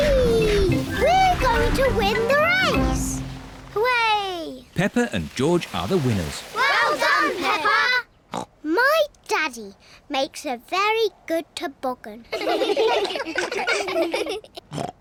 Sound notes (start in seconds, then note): 8.7 snorts; 12.3 all laugh